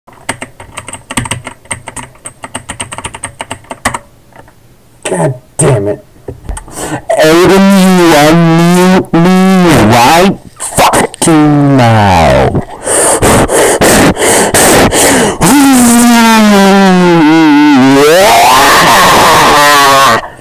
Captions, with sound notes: [Typing noises] God damnit. Aiden you unmute me right FUCKING now! [Gamer breathing] [Cries of the dead and the souls sent to hell]